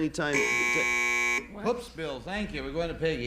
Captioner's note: buzzer